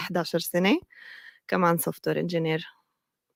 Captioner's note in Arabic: لغة أجنبية